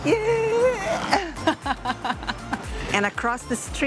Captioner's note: laughs